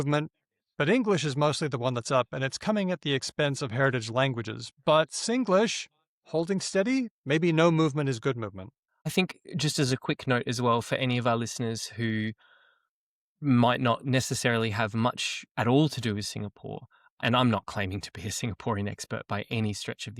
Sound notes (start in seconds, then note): none